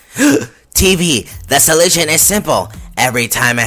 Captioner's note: gasp